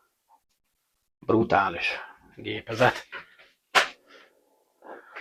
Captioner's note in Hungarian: horkantás